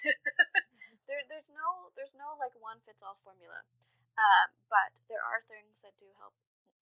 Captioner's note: laughs